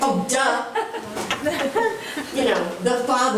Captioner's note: chuckling